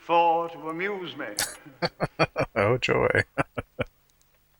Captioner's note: laughing